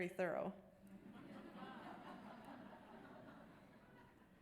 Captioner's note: audience laughter